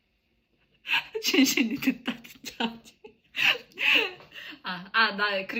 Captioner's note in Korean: 웃음; 헉 소리